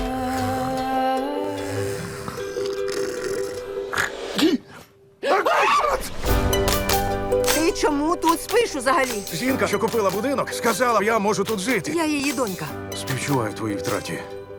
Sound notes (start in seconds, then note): 0.0 loud snoring; 7.2 in English